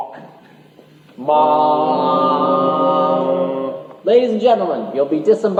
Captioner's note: vocalised ship's horn